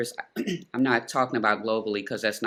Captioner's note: clearing throat